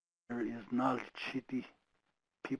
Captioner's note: speaking foreign language